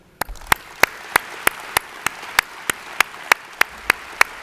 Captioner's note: audience applauds